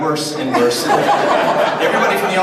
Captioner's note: audience laughs